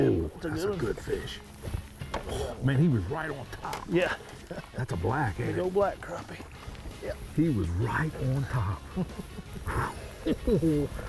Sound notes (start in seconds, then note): 4.0 chuckling; 8.8 chuckling